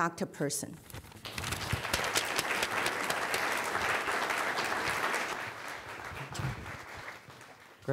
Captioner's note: applause